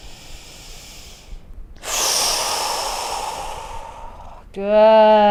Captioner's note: inhaling and sighing